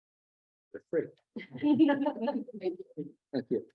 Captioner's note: laughter